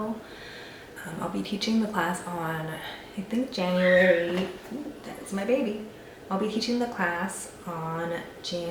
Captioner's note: yelling sound